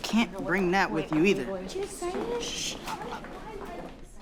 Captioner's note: whispers